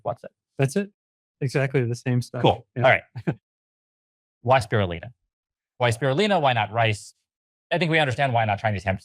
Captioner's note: laughs